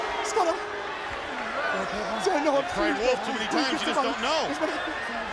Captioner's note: crowd chatter